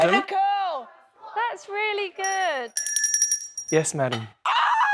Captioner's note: bell ringing; screams